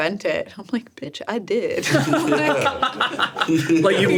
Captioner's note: laughs